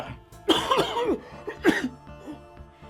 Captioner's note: coughing